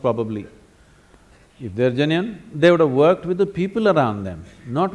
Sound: none

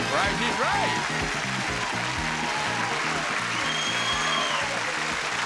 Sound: audience applauding

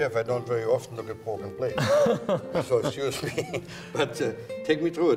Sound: laughs

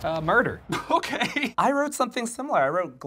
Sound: laughs

